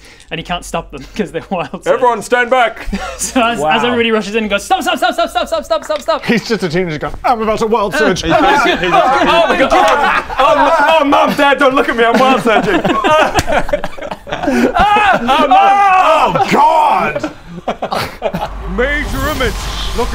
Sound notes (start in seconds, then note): 8.2 errrghaaah!; 11.9 schoolboy giggles